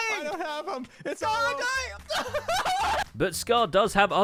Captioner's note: distressed noises